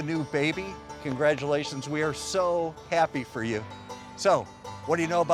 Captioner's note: hands clapping